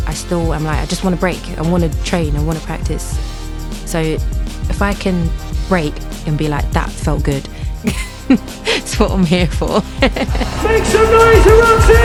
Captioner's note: laughs